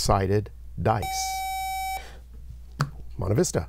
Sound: buzzer

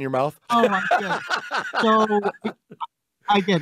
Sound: laughing

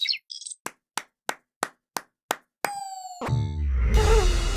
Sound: single person clapping

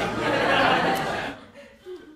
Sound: canned laughter

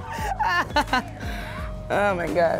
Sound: laughing

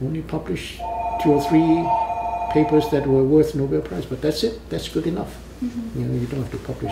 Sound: phone rings in background

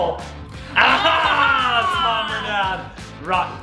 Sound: all laughing

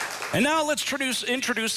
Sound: applause

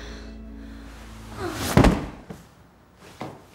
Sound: thud

